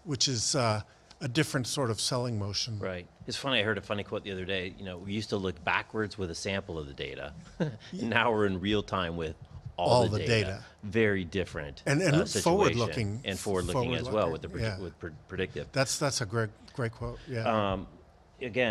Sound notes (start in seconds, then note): 7.4 laughs thinly